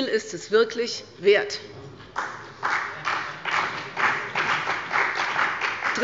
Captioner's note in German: Beifall bei der CDU und dem BÜNDNIS 90/DIE GRÜNEN